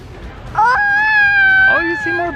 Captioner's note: wails